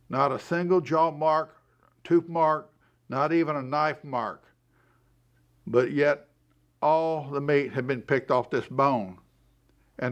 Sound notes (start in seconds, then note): none